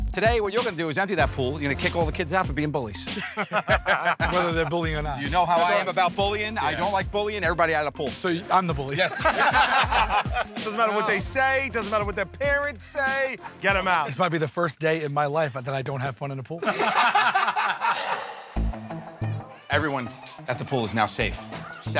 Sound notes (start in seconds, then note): 16.6 laughter